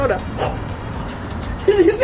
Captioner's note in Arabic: يضحك